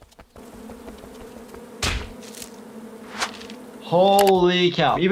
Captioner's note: bees buzzing